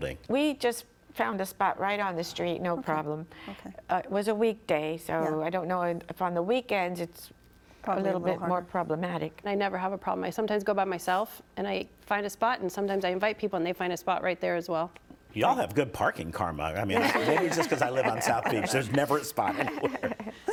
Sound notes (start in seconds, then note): 16.9 participants laughing